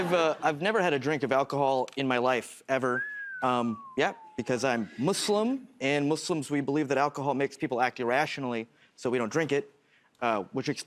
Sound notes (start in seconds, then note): 2.8 whistles